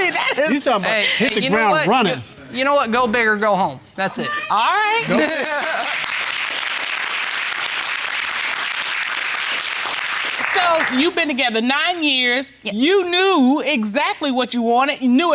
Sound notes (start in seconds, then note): 5.2 applauding